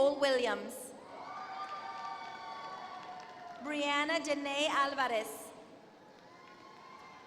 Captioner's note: applause